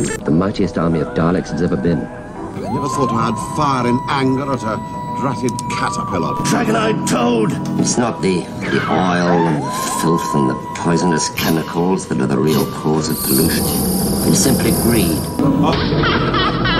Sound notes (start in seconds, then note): 13.9 ghostly roar